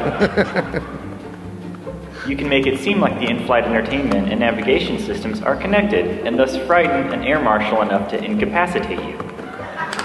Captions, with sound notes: and thus frighten an air marshal enough to incapacitate you . (Laughter). >> With enough